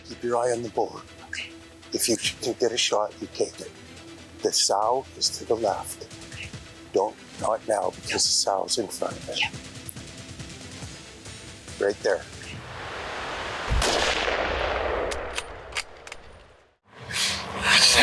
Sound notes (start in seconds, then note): 13.6 rifle bangs and bullet echoes; 15.1 rifle safety catch clicking